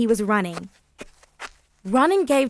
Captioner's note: person running